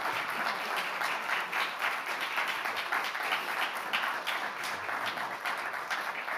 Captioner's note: audience continues applauding